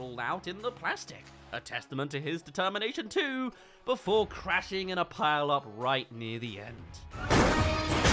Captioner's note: crash